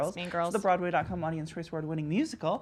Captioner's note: murmurs